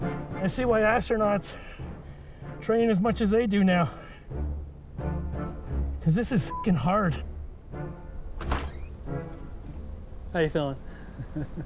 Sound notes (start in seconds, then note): 2.0 gasping; 10.8 chuckles